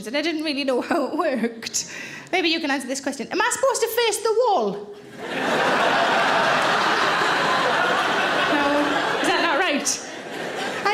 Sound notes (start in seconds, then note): 5.0 audience laughing